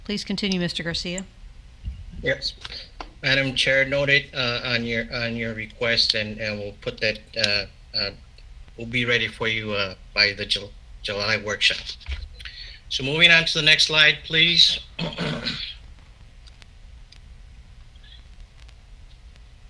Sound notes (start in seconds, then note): 14.9 clears throat